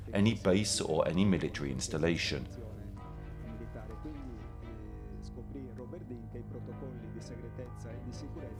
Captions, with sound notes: any base or any military installation. (speaking in foreign language) (dramatic music continues)